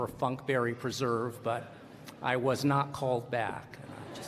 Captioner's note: laughter